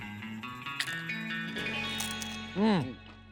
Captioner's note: crunching